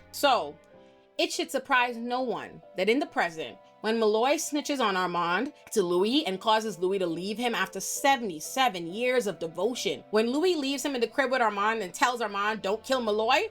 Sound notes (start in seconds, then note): none